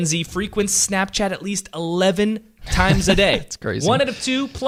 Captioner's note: laughs